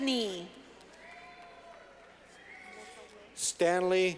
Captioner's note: clapping